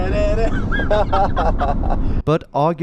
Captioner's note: laughing